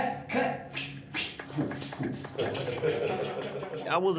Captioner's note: makes cutting sounds